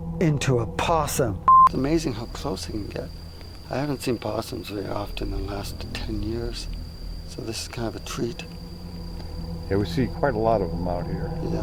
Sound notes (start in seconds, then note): 0.0 suspenseful music; 1.4 beep